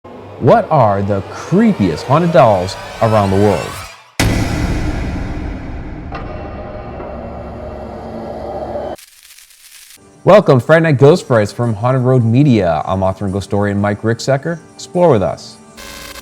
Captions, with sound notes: - What are the creepiest haunted dolls around the world? (eerie music) (static crackling) Welcome to Friday Night Ghost Frights from Haunted Road Media. I'm author and ghostorian Mike Rickesecker. Explore with us.